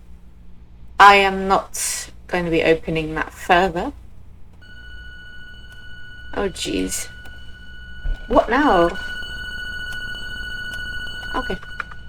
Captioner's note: alarm sounds